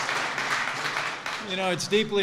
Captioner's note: applause